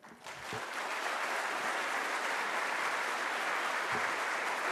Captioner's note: applause